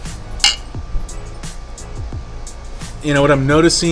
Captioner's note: glasses clinging